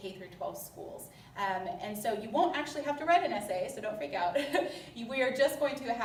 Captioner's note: laughter